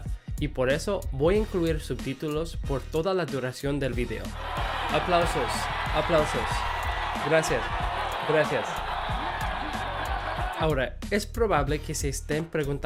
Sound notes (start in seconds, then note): 4.4 applause